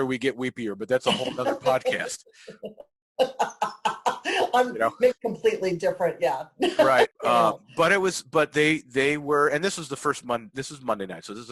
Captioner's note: laughing